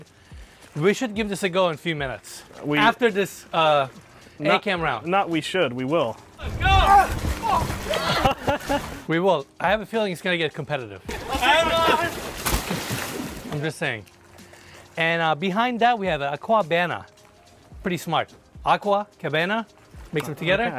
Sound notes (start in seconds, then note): 11.1 splashing